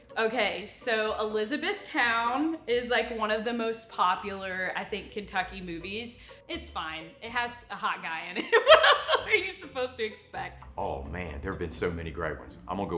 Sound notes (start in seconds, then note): 8.4 laughs